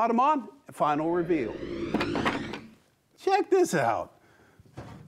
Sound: wood whooshing

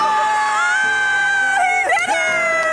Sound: water splashes; cheers loudly

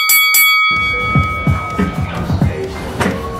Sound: bell ringing

